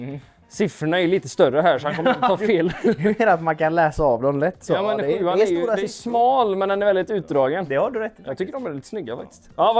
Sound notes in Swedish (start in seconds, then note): 1.8 skratt